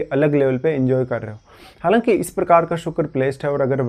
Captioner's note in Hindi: नाक से की जाने वाली आवाज़